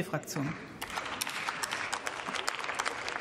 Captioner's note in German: Beifall